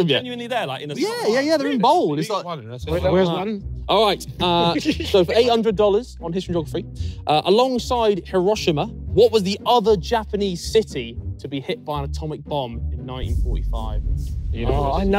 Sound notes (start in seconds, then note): 4.5 laughing